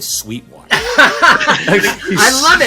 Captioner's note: everyone laughing